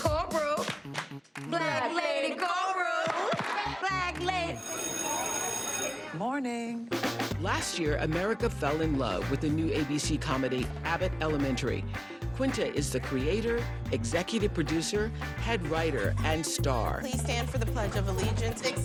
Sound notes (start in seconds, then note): 3.4 all chanting; 6.1 bell ringing